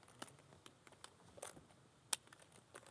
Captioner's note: none